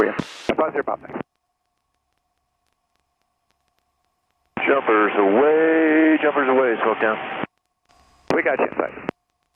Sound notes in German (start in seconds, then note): 4.5 Unterschiedliche Flugzeuge über der Flugsicherungsfrequenz